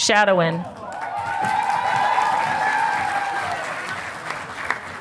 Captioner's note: audience applauding